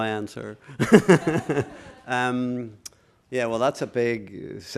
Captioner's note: laughter